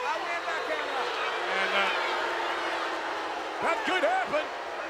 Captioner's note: audience booing